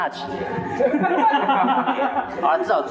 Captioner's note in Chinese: 哈哈哈哈哈